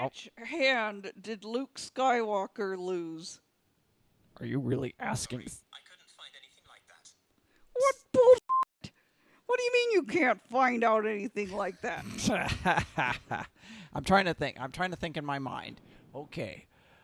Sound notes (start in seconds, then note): 12.4 Luke cackles